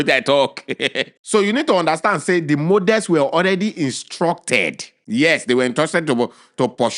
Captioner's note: chuckles